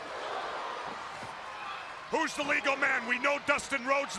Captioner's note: crowd chatter